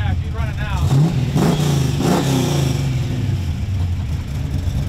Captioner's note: engine revving